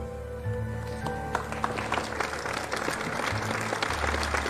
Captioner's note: audience applauds